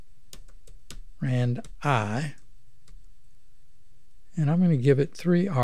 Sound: clicking

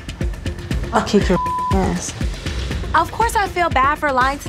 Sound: beep

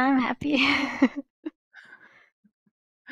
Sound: laughs

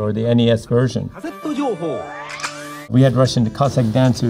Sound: announcer speaking in Japanese

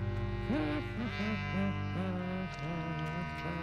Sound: humming

